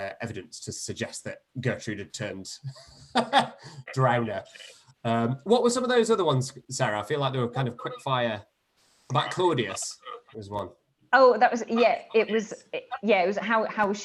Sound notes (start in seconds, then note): 2.6 laughs